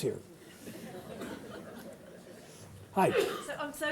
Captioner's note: audience laughing